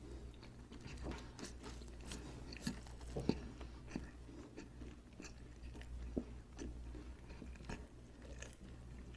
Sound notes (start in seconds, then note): 1.8 chewing